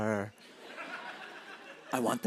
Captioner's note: laughter